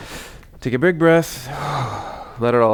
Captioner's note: exhales